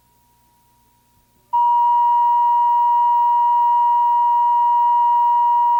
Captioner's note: beeping